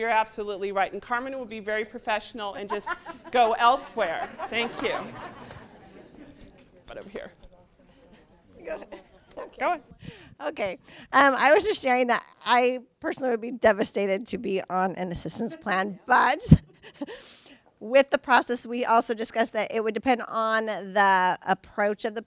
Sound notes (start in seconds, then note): 16.5 laughs